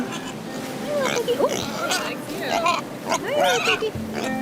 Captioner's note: pig grunting